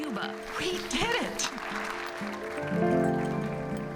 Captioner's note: applause